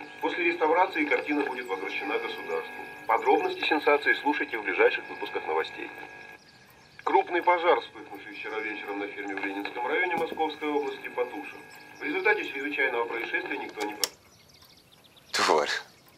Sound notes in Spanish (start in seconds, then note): 5.8 El sonido de radio de fondo con otras noticias